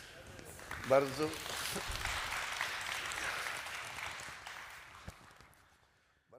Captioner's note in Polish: Aplauz